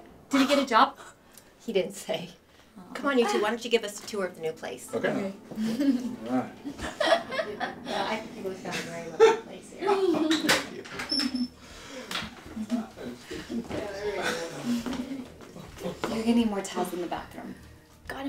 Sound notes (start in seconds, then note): 6.6 laughing